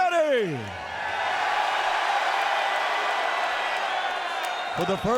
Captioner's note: audience cheers